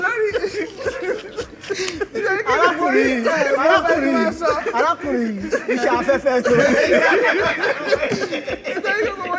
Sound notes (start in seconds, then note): 0.2 everyone laughs; 7.5 everyone Laughs